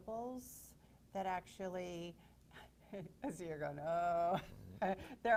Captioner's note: laughs